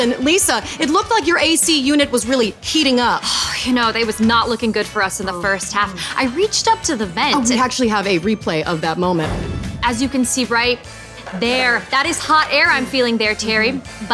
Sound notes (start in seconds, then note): 3.6 sighing; 9.2 air whooshing